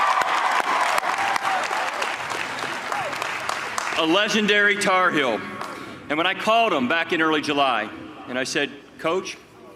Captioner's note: cheers and applause